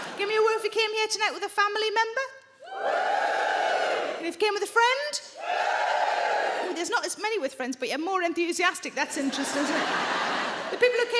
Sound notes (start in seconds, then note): 2.6 audience woos; 5.4 audience woos